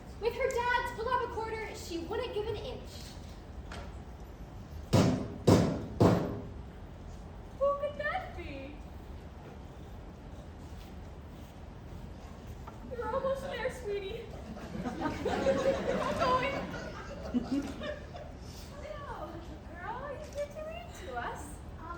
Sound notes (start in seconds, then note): 5.4 aggressive Door Knocking; 14.3 crowd chuckling